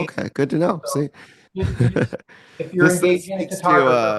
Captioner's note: laughs